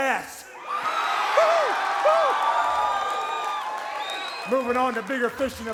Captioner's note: audience applauds and cheers